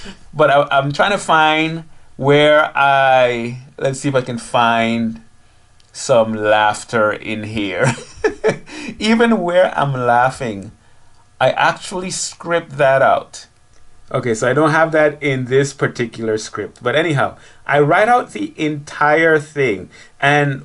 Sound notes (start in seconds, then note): 7.8 laughing